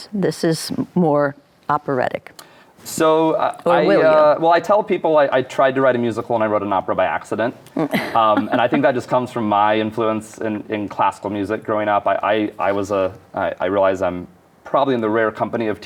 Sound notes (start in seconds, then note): 7.7 laughing